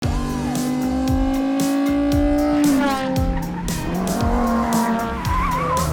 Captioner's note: engine roaring